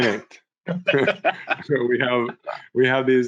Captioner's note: laughter